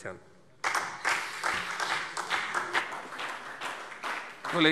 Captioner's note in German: Beifall SPD